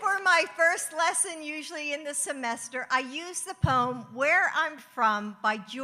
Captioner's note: applause